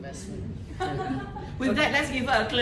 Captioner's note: laughter